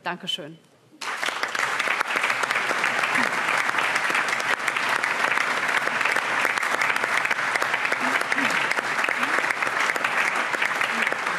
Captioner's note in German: Allgemeiner Beifall